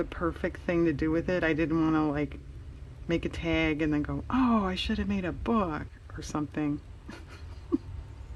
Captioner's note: laughs